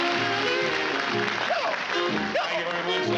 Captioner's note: hiccuping